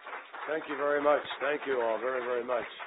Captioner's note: applause